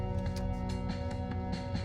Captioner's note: car indicator on